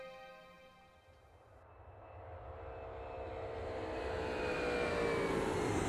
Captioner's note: plane engine roaring